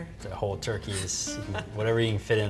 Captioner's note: laughing